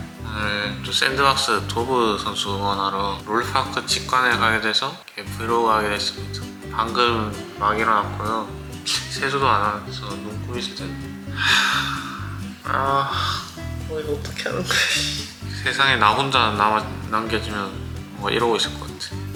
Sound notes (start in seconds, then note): 11.3 sigh